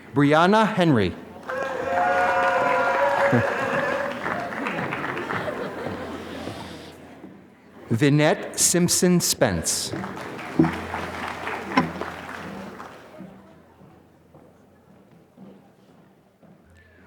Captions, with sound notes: Brianna Henry. (applause) Vinette Simpson-Spence. (applause)